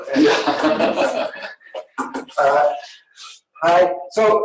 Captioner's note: laughing